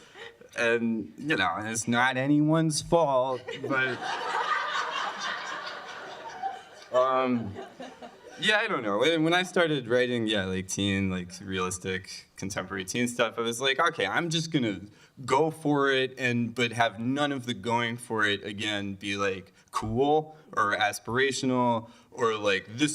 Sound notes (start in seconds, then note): 3.3 laughter